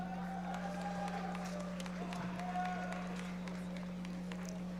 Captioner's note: audience members applauding